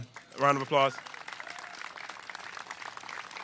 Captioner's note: applause